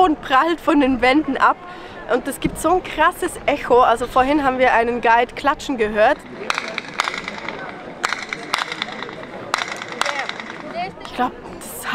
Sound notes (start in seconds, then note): 6.4 clapping with echo